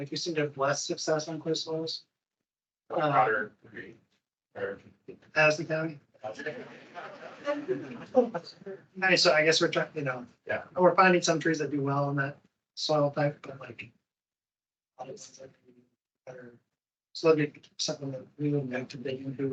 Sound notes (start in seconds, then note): 6.3 attendees laughing